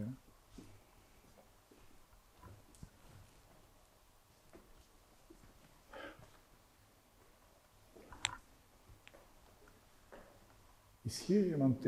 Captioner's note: silence